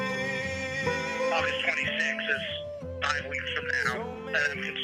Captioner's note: homem sobre o alto-falante